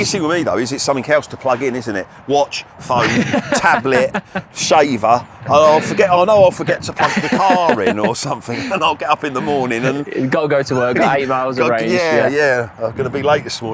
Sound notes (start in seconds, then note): 4.7 laughing